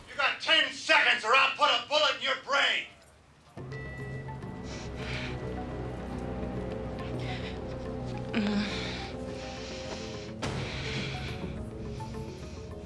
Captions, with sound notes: You got 10 seconds, or I'll put a bullet in your brain! (thrilling music) (woman groans)